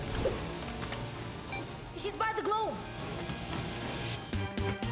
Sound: beep; theme music plays

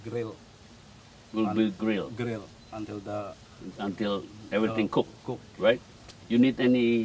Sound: chef speaking; chef speaking

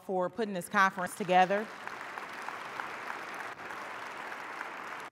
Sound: audience applauding

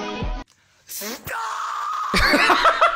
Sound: screams; cackles

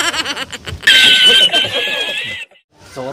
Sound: man Laughs

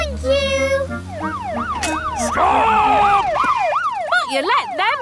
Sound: siren wailing

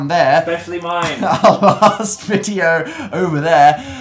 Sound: laughs

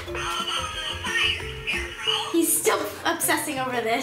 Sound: talking from toy

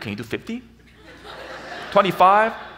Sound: audience laughs

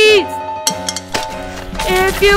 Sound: tick tick; rumbling

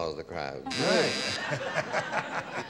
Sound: buzzer

